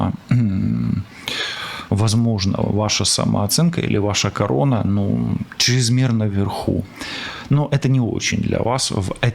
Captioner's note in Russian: откашливается